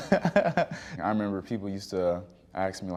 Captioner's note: chuckling